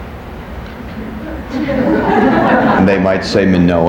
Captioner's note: people laughing